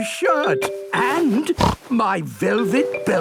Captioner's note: snorts